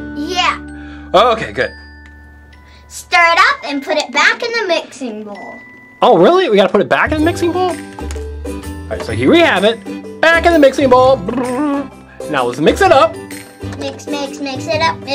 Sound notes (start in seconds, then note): 11.2 imitates mixer spinning